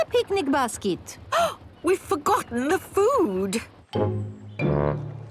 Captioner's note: gasps